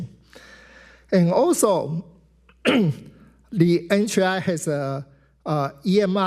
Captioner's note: clears throat